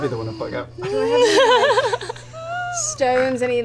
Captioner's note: laughter